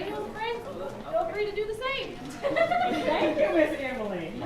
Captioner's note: teachers laughing